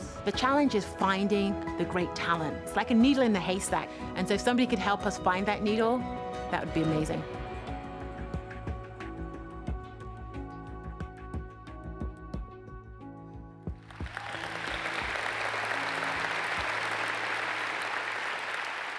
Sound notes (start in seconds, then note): 8.2 gentle music; 13.8 audience applauds